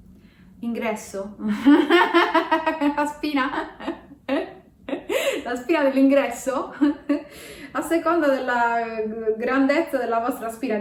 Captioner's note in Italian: risata